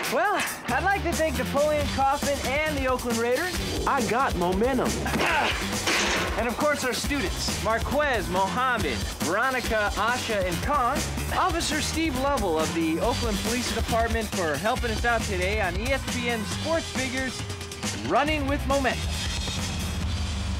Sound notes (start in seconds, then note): 5.0 grunting